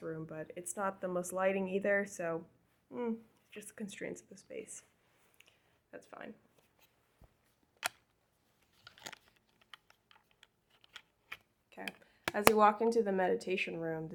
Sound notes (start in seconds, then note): 6.8 keyboard clacking